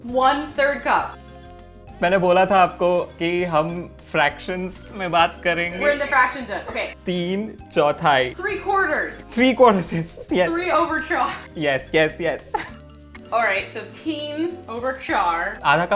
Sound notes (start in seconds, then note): 1.2 speaking in Hindi; 7.2 speaking in Hindi; 15.7 speaking in Hindi